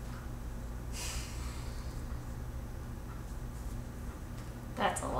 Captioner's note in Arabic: تتنهد